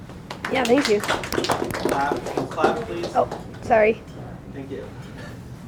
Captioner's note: applause